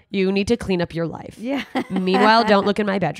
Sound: laughs

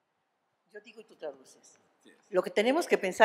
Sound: speaking spanish

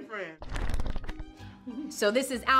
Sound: pages fluttering

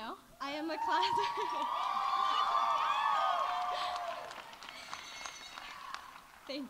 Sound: audience cheering; audience applauding

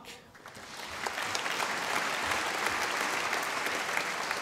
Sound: audience applauding

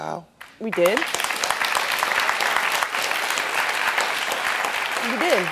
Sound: audience clapping

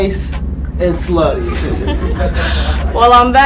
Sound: all laughing

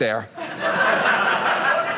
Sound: audience laughing

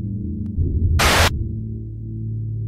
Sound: Static

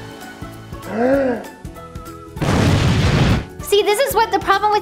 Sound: gasping

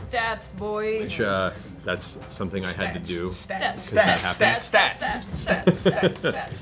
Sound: chanting

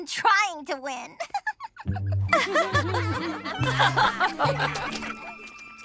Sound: giggling

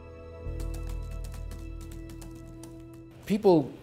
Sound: keyboard keys tapping

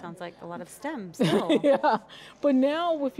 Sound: laughs

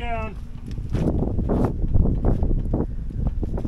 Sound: wind

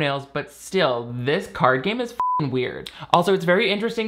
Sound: beep

